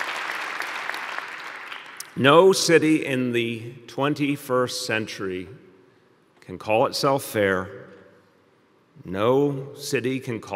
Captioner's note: applause